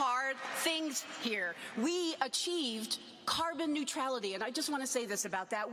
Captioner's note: cheers and applause